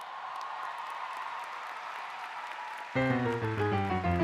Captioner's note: applause